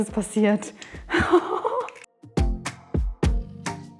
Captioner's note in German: lacht